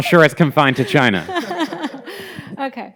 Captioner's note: everyone chuckling